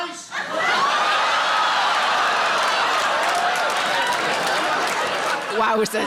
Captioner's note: audience laughing and cheering